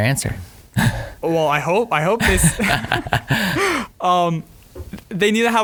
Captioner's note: laughing